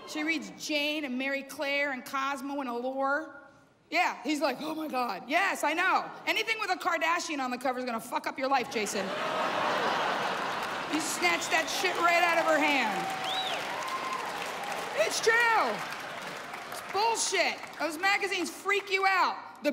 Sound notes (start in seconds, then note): 13.8 cheers and applause